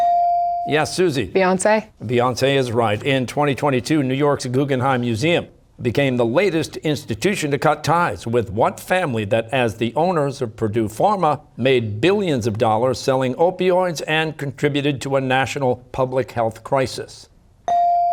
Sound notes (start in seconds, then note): none